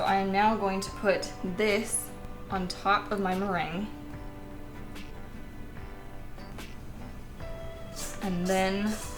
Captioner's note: pleasant scrape-y sounds